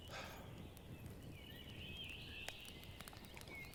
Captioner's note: Jim sighing